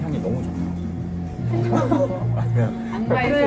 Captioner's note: the devil's whisper